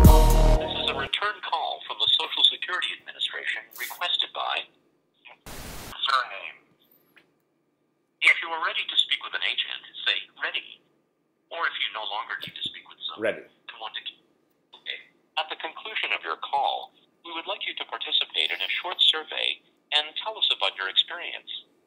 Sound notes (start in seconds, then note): 5.4 static; 13.4 automated voice